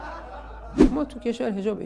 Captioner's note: laughter